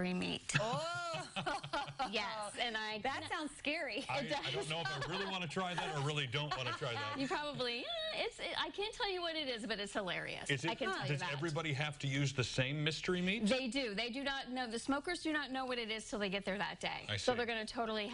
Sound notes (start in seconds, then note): 6.9 laughter